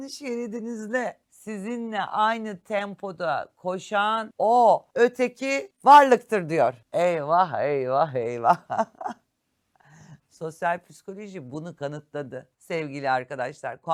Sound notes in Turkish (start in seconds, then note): 8.5 kahkaha